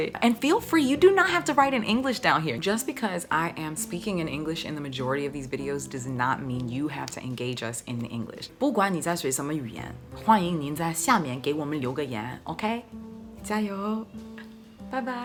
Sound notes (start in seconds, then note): 8.7 speaking in foreign language